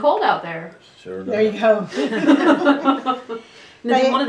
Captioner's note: laughter